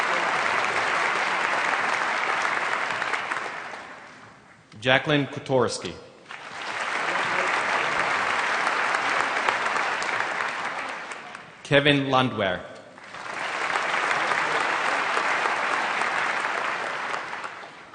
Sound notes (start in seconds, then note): 0.0 applause; 6.2 applause; 12.9 applause